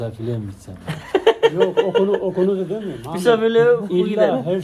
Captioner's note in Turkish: kahkaha